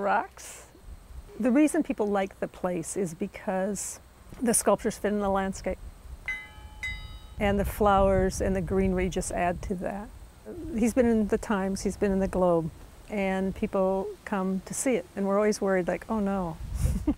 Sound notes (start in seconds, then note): 10.5 laughing